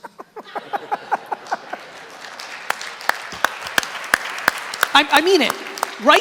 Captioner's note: laughing; applause